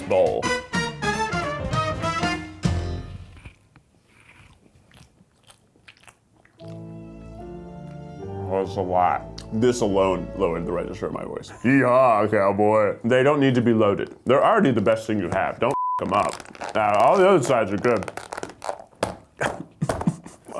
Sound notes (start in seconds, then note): 0.3 brass band music; 4.0 lips smacking; 6.6 somber music; 19.4 laughing